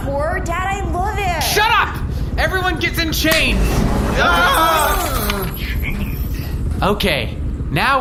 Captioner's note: everyone shouts